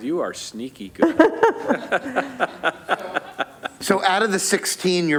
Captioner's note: laughter